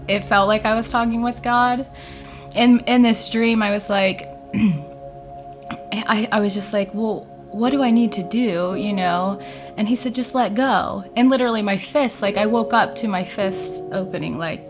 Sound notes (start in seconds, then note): 4.5 clears her throat